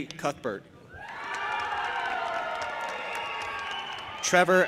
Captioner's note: audience applauding and cheering